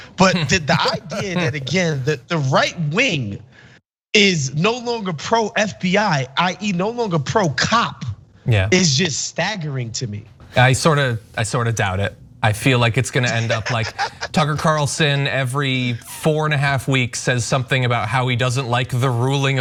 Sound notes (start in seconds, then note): 13.1 laugh